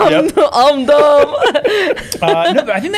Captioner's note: laughter